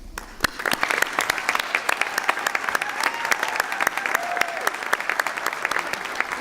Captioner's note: applause